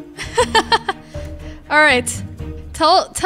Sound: laughs

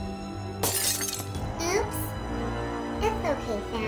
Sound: glass breaking

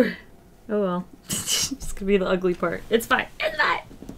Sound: laughs

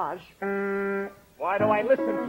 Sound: funny horn honk

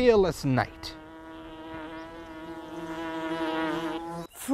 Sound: buzzing

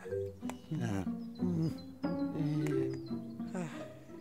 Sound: sighs, then groans

